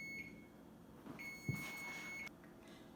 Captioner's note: timer beeping